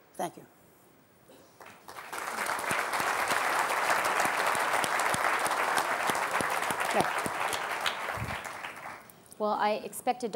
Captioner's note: applause